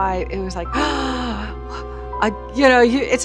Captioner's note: gasps in wonder